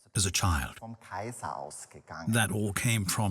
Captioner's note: speaks in foreign language